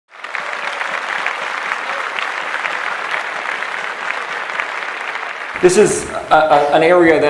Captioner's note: applause